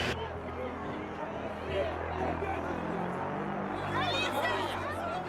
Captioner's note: static hisses